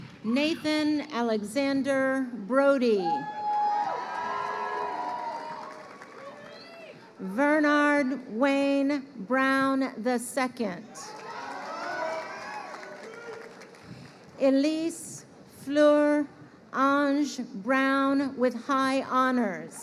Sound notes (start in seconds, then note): 11.0 crowd cheering